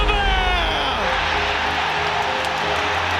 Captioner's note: crowd erupts